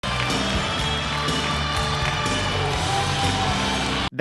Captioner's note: audience cheering